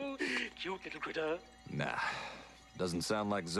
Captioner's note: giggles